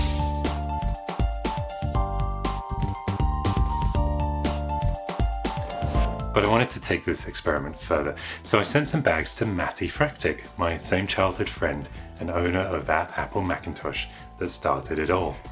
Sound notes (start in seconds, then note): 5.6 woosh